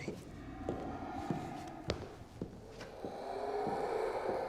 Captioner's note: dinosaurs growling